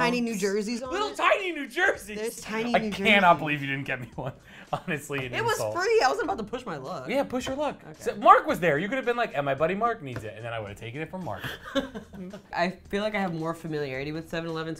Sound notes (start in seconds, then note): 11.4 laughs